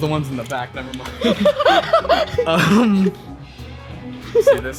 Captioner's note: chuckles